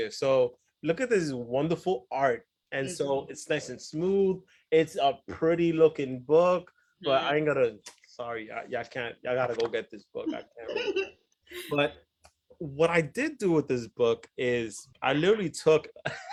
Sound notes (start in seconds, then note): 10.8 speaks faintly